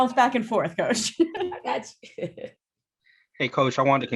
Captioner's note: laughter